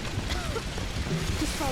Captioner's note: a cough